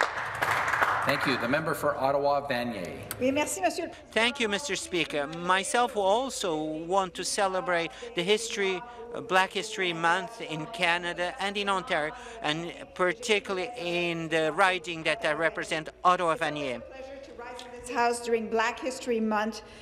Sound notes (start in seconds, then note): 0.0 some Applause; 10.4 speaking French